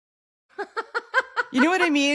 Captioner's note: laughs